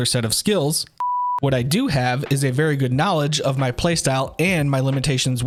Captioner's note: beep interrupting sound